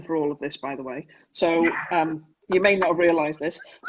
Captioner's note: laughs